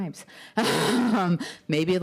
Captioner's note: laughter